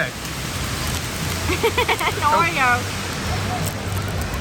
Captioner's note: laughs